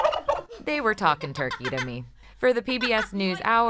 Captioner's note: turkey gobbles